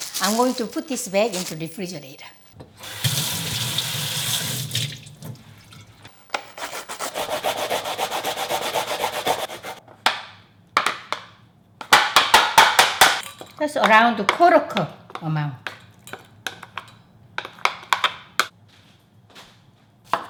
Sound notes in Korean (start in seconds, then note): 0.0 비닐봉지 부스럭거리는 소리; 2.6 수돗물소리; 6.6 강판에서 쓱쓱 가는 소리; 11.9 강판을 탁탁 치는 소리; 15.6 숟가락 부딪치는 소리